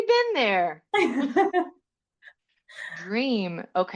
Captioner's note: laughing